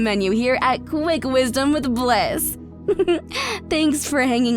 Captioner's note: chuckles